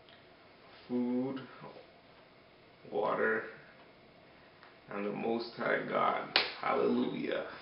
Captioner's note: claps